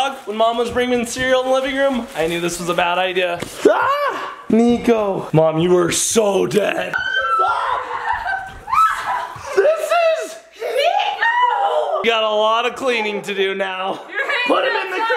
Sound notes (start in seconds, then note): 4.0 shrieks; 6.9 shrieking and laughing